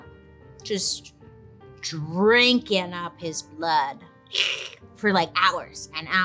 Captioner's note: slurps